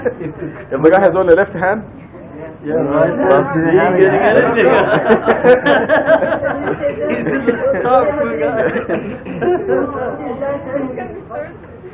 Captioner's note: gülüşmeler